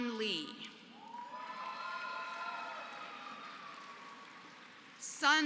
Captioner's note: applause